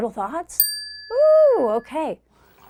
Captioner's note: tone dings